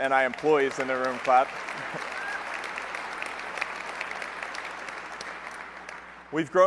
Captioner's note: applause